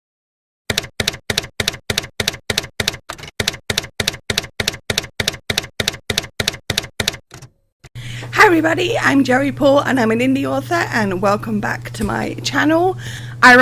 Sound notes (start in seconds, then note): 0.7 typewriter keys clacking